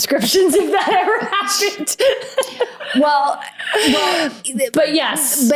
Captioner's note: laughs